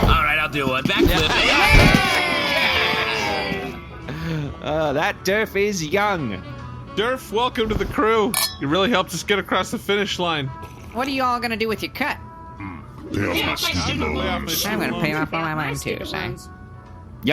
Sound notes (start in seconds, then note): 8.3 glass clinks